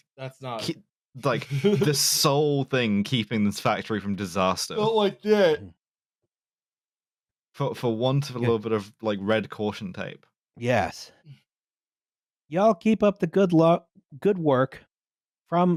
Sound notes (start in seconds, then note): 5.1 yawning